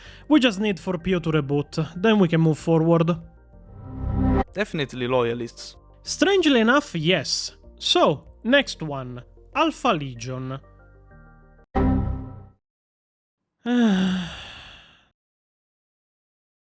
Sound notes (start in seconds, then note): 13.6 sigh